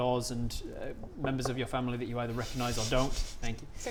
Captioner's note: knock knock knock